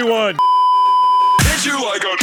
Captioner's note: beeeeeep